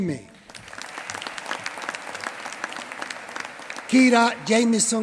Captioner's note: applause